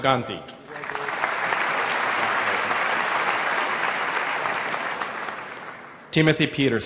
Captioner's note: applause